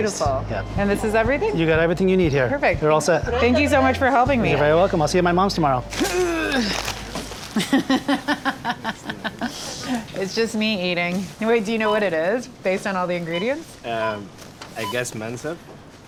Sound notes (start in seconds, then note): 6.1 grunts; 7.5 laughs